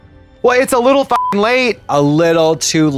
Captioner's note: beep